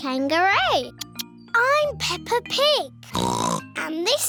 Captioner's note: oinks